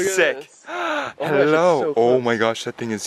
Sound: gasps

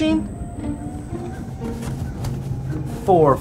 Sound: rumble

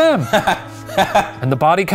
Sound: laughing

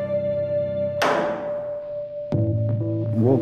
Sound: baton bangs against cell bars

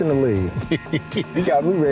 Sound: Jon laughs

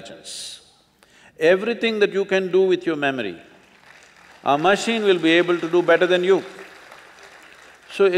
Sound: applause

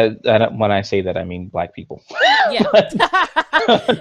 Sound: both laughs

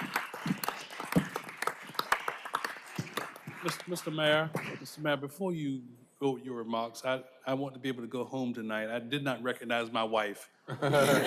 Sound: applause

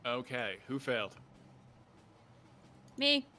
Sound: none

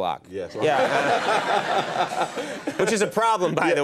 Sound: laughter

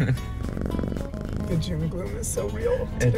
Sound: both giggling; cat purring

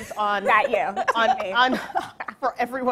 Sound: laughing

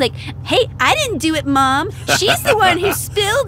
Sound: laughs

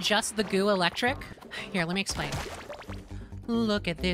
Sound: sigh

